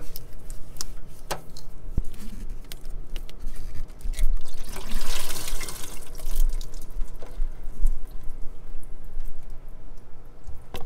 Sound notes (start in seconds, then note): 4.1 fluid dripping